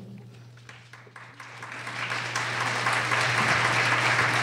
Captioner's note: applause